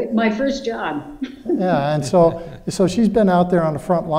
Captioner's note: laughing